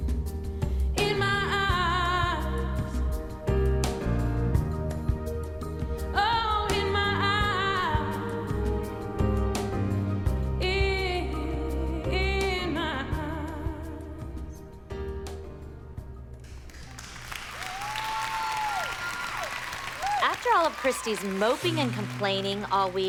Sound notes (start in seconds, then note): 16.4 clapping